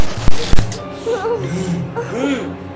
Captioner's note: moaning Sounds